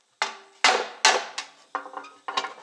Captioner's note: tin hammering